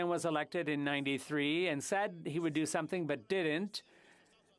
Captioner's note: speaking French